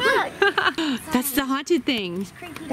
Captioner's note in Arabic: يلهث